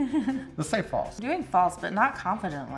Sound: laughs

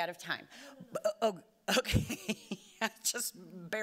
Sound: laughing

